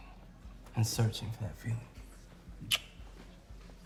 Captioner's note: lips smacking